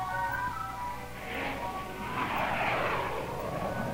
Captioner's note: air whooshing